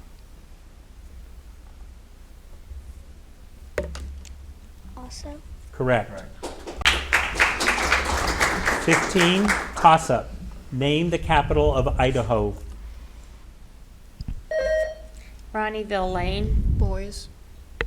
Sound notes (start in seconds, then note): 6.4 audience applauding; 14.5 buzzer ringing